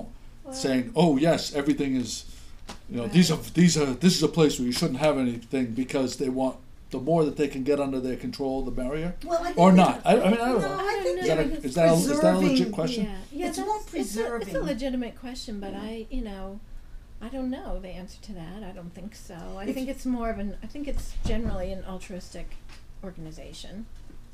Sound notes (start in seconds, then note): 13.2 voiceover